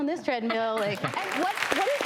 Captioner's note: audience applauding